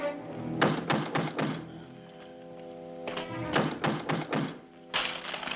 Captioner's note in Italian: bussano alla porta